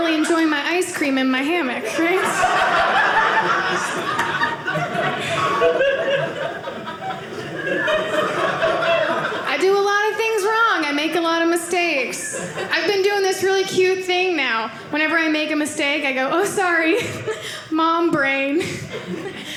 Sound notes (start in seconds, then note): 2.3 audience laughing